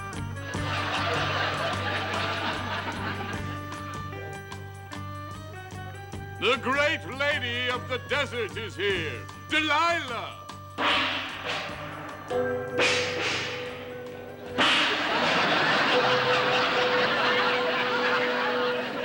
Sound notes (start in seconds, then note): 0.5 audience laughing; 10.2 bangs gongs; 14.5 audience laughing